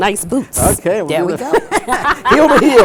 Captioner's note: laughter